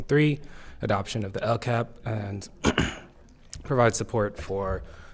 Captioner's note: clears throat